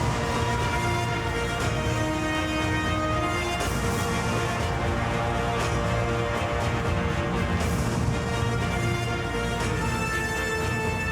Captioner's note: applause